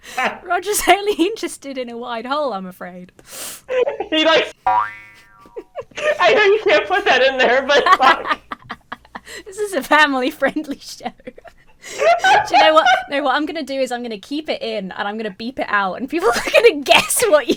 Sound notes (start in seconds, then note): 4.6 boing sound effect; 8.2 laughs; 11.8 both laugh